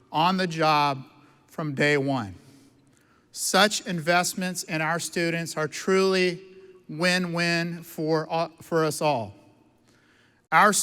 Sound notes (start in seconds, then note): none